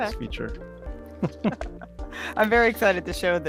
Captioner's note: both chuckle